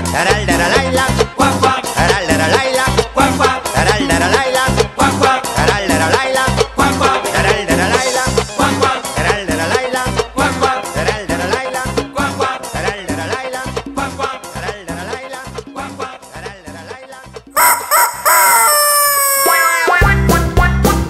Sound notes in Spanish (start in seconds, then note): 17.5 Sonido cacareo; 19.4 Mùsica alegre